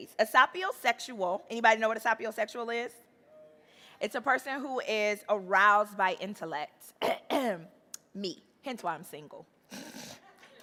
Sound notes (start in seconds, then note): 7.0 clears throat; 9.8 chuckles